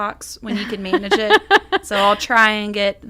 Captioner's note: laughs